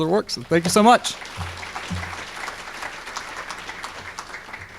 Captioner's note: audience clapping